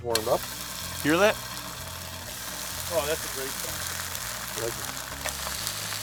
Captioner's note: sizzle